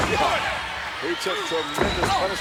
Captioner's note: laughs